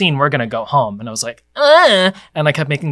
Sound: whines

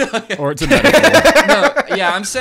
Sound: all laugh

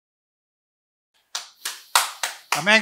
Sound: clapping

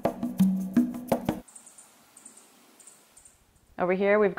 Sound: birds Chirping

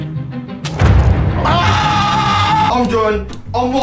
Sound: squealing

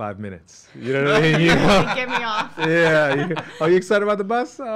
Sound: laughing

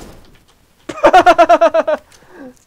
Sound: laughter

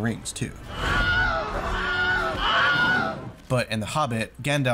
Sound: scream

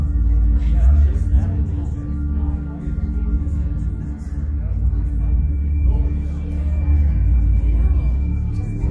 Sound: chatter

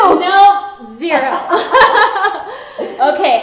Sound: both laughing

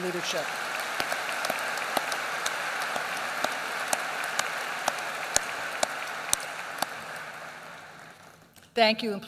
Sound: applause

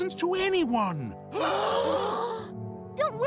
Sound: gasping

